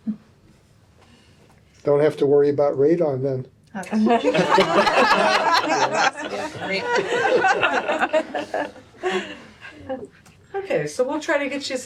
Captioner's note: laughter